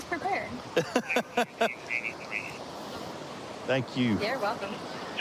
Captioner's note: laughing